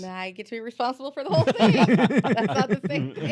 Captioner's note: laughter